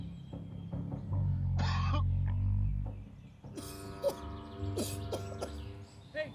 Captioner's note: coughing